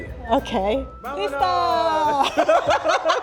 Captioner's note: both speaking Spanish; both laughing